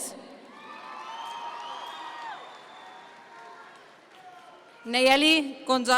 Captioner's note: audience members cheer